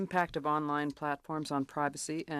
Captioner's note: speaking French